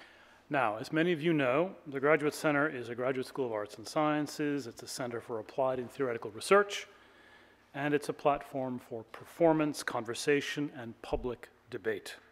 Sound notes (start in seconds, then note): none